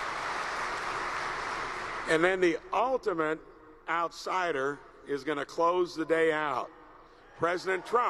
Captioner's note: applause